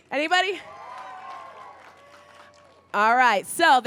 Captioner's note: crowd cheers